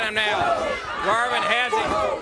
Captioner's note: crowd cheering